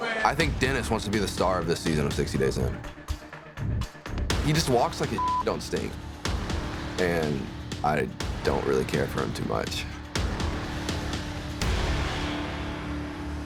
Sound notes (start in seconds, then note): 5.1 beep